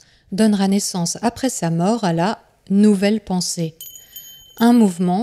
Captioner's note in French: son d'une clochette qui tinte